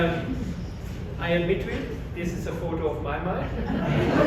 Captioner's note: laughter